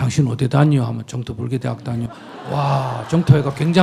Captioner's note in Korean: 청중 웃음; 청중 웃음 / 박수